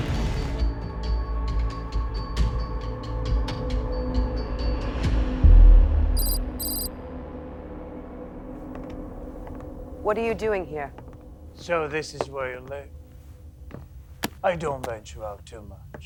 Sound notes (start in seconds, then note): 1.2 dramatic music continues; 6.5 letters clicking